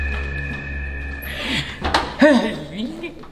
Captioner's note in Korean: 문 여는 소리; 박사의 힘겨운 탄성